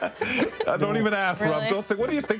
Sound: laughing

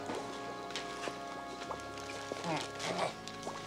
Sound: laughs

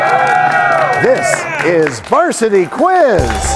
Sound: cheers and applause

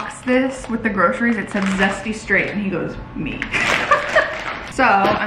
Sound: laughs

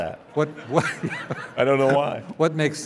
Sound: laughing

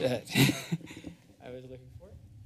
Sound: chuckles

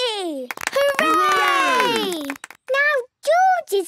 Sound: cheering, clapping

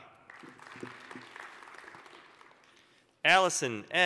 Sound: applause

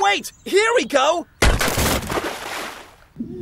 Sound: splash

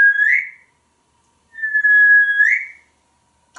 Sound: whistling

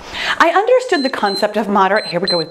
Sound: timer beeps

